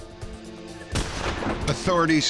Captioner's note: gunshot